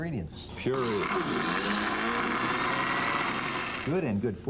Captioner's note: blender whirring